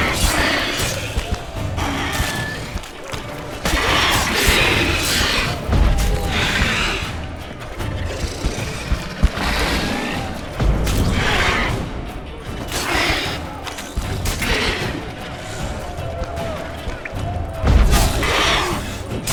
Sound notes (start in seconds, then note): 1.8 screech; 4.6 screech; 5.7 thunderous boom; 7.6 shriek; 10.0 snarl; 10.5 thunderous boom; 13.8 screech; 17.6 thunderous boom